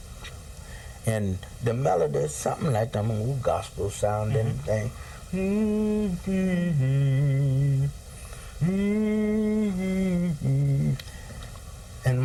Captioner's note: hums